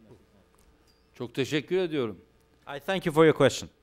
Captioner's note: non-english speech